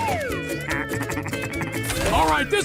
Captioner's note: laughs